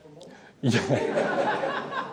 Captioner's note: laughter